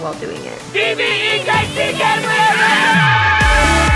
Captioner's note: cross yelling; upbeat music